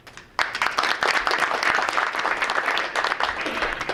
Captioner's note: group applauding